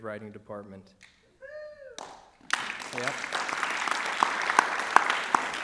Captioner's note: applause and Cheering